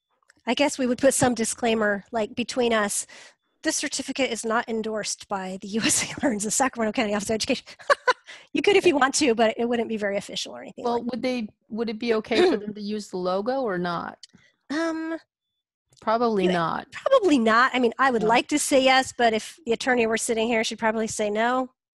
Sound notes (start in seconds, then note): 7.7 laughs